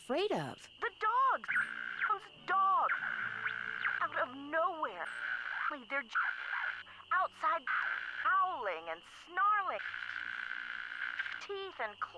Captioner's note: Static